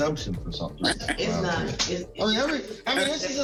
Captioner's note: laughs